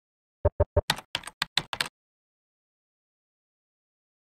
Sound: keyboard clicks

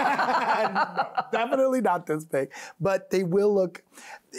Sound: both laughing

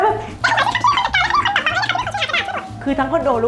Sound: effect sound; เสียงเอฟเฟกต์

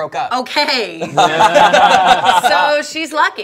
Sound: laughing

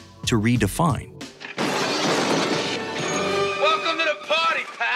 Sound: crashing

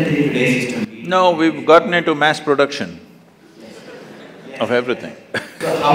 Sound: laughter

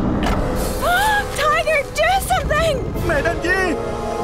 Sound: gasps

